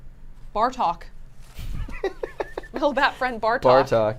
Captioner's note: laughs